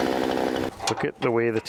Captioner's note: chainsaw whirs